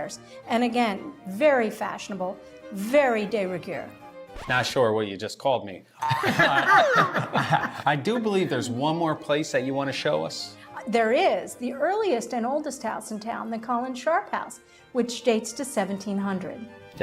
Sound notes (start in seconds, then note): 6.0 group laughing